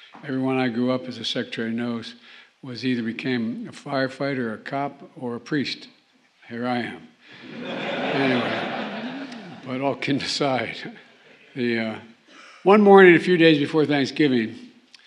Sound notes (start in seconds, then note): 7.4 laughter